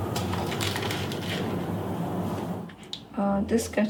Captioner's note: drawer rustling